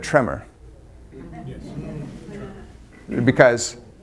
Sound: audience murmurs

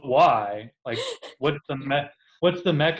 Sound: laughs

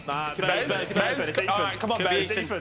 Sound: loud chattering

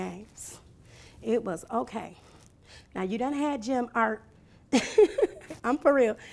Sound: laughing

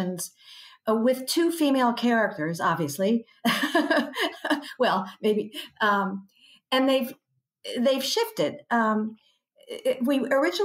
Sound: laughs

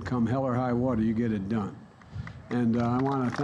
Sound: applause

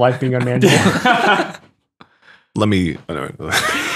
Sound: friars laugh

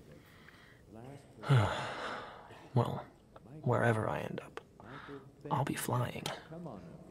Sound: sighs

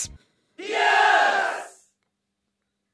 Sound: crowd of male voices scream "Yes!"

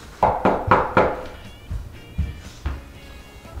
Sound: knocking

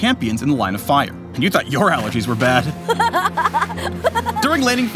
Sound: smolder laughing

